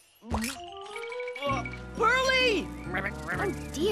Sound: gagging

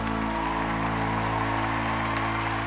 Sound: applause; cheering

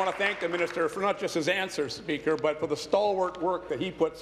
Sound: applause

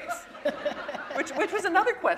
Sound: laughter

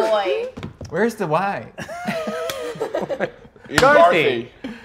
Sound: players laughing

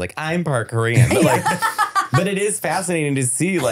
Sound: laughing

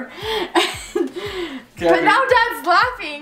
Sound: laughing

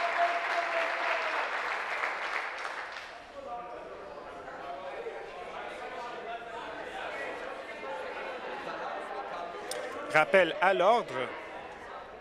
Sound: applause

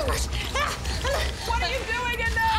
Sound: panting

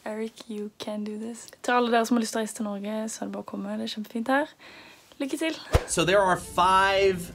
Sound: speaking in Norwegian

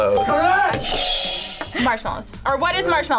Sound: buzzer rings

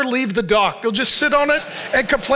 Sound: congregation laughs

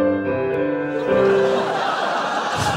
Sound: laughter

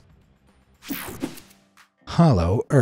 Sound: techno sound effect

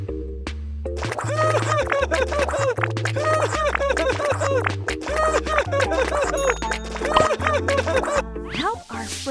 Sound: Elliot laughs

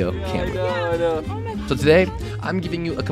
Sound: people chattering

